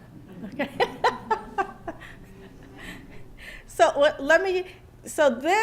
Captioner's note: laughter